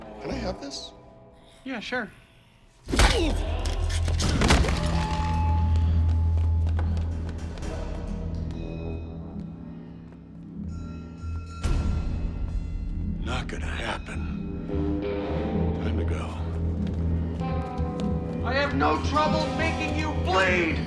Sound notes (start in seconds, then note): 2.8 thud; 2.9 clattering; 5.7 suspenseful music